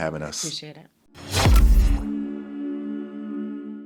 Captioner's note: logo whooshing